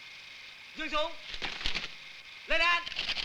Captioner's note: Malay spoken audio